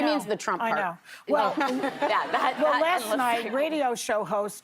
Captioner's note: laughter